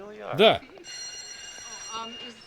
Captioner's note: bell rings